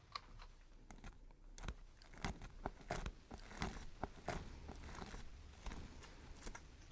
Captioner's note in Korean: 고기 씹는 소리